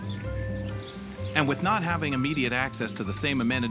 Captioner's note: voiceover